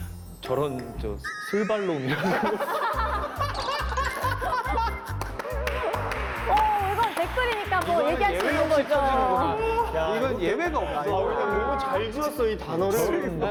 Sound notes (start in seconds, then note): 3.6 laughing